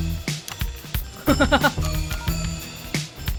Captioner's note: chuckles